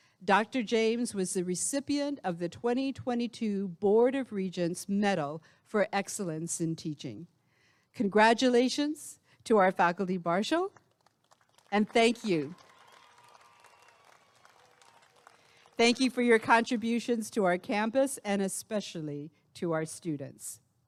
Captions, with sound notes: Dr. James was the recipient of the 2022 Board of Regents Medal for Excellence in Teaching congratulations to our faculty marshal and thank you [applause and cheering] thank you for your contributions to our campus and especially to our students